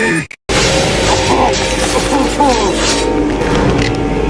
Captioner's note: Riley screams in pain